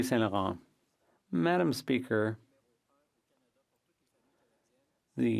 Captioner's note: speaking French